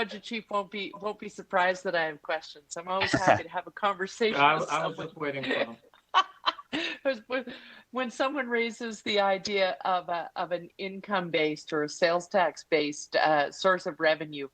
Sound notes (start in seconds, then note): 6.0 laughter